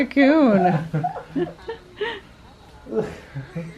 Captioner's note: laughter